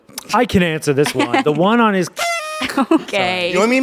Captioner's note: party horn blows